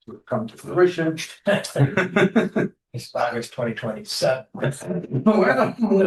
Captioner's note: laughter